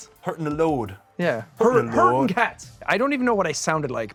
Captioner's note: exaggerated accent; overlapping, repeating